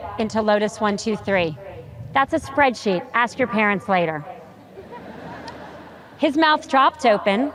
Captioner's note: audience chuckles